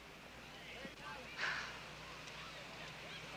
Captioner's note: sighs